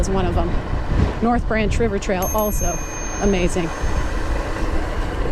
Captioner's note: bell ringing